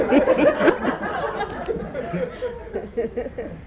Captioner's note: laughter